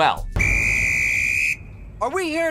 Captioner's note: whistle